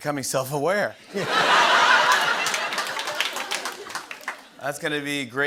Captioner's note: laughter and applause